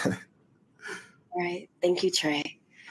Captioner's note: chuckles